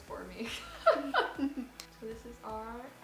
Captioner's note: laughs